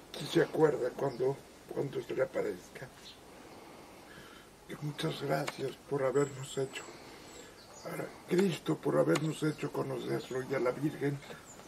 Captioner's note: in spanish